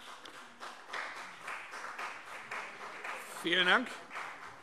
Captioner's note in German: Beifall CDU